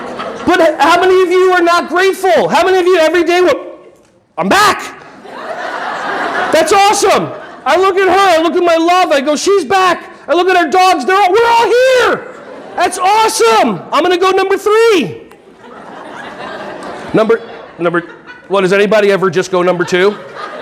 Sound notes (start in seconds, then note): 4.9 audience laughing; 15.3 audience laughing